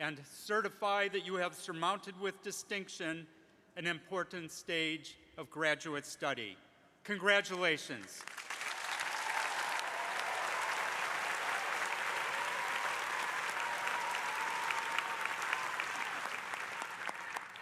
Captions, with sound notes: and certify that you have surmounted with distinction an important stage of graduate study. Congratulations. (crowd applauding)